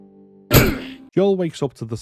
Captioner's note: impact sound